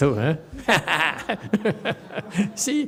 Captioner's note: laughs